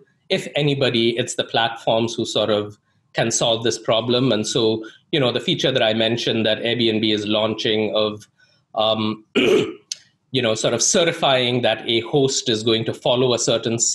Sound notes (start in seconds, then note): 9.2 clears throat